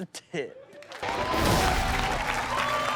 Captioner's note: cheering